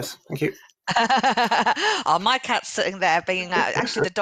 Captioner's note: laughing